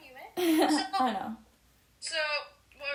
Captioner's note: snips laughs